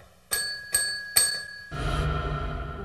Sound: dings

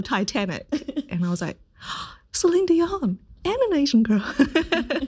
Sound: gasps

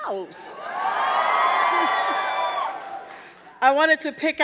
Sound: audience cheering; chuckles

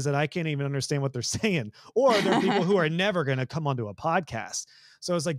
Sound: laugh

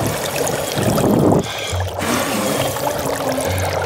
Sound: bubbling; blowing

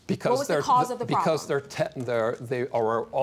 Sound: stammering

